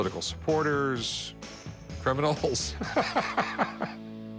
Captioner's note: laughs